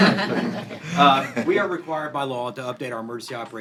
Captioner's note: laughter